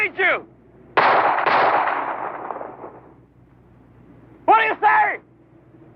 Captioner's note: gun shots